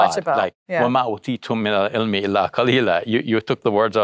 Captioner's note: speaks in foreign language